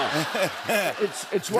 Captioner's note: laughter